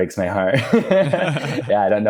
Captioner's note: both laughing